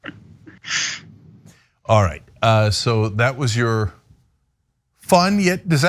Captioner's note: laugh